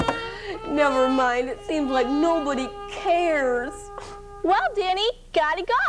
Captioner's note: whiney sound